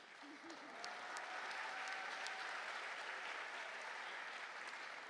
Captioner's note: applause